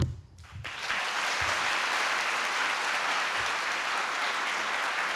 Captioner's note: applause